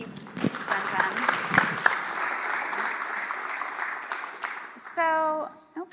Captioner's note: applause